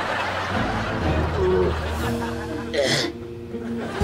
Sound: groaning

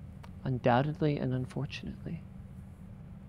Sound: none

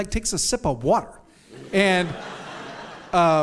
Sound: audience laughs

